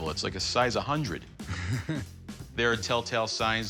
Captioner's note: chuckles